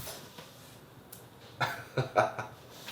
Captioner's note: laughter